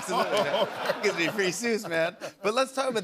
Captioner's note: laughter